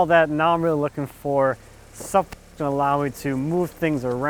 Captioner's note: static